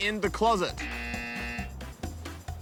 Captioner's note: buzzer